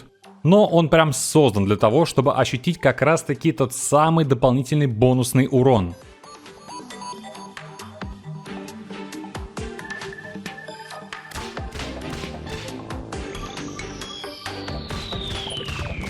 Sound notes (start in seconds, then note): 11.3 some whip sounds again